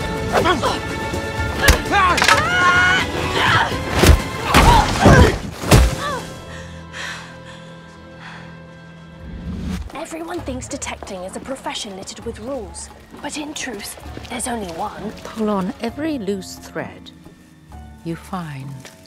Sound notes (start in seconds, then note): 2.0 Enola yelling; 2.0 cane falling; 4.2 loud thud